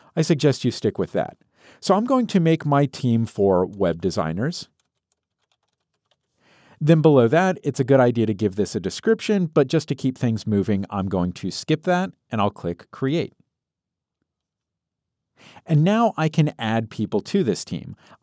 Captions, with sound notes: I suggest you stick with that. So, I'm going to make my team for web designers. (keyboard clicking) Then below that it's a good idea to give this a description but just to keep things moving I'm going to skip that and I'll click create. And now I can add people to this team.